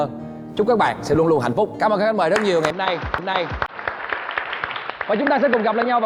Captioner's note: applause